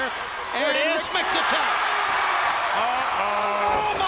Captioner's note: crowd cheering